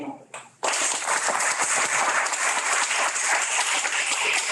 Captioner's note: audience claps